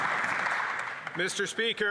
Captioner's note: some Applause